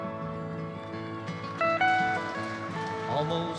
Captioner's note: audience applauding